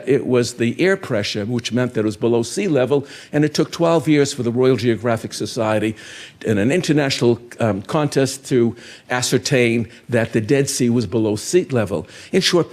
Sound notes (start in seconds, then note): none